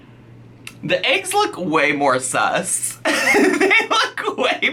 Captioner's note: laughs